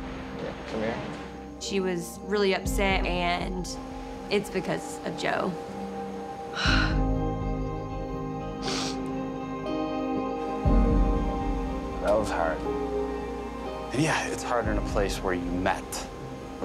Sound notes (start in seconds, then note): 6.4 sighs; 8.6 sniffles; 10.2 somber music